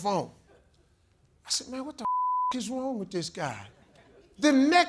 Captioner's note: beep